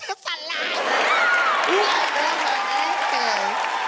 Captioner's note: audience cheering